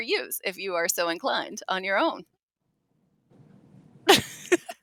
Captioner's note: laughs